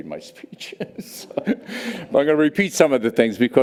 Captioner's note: laughs